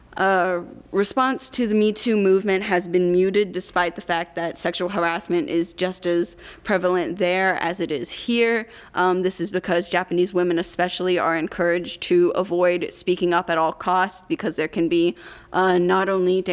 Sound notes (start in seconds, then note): none